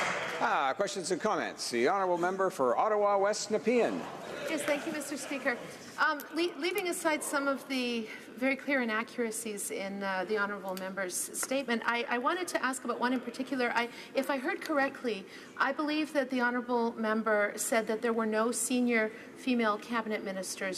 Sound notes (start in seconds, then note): 3.6 applause